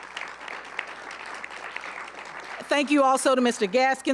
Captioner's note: applause